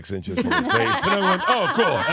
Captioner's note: laughs